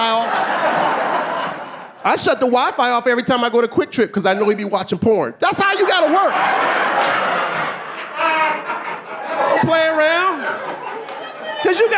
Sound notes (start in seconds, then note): 0.0 audience laughing; 7.5 audience laughing